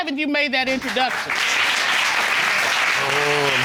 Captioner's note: audience applauding